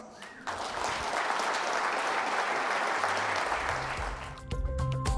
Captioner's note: audience applauds; upbeat music